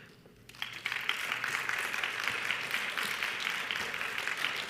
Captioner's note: audience applauds